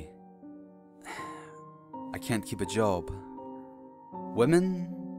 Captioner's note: sigh